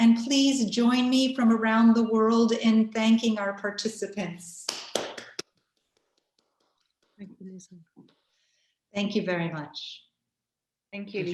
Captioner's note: clapping